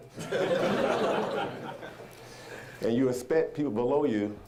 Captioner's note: audience laughing